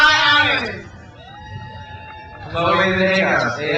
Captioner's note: crowd cheers